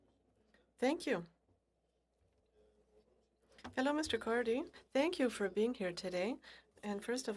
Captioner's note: speaking French